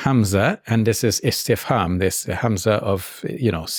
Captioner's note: speaks in Arabic